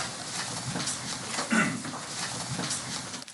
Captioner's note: clears throat